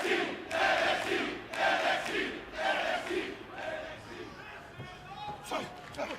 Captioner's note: fans chanting